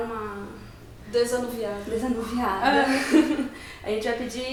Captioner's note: laughs